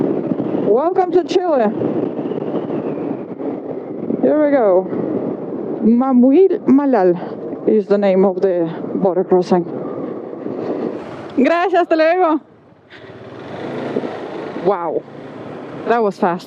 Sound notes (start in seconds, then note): 10.3 in Spanish